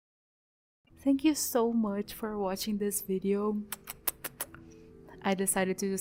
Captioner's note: kiss noises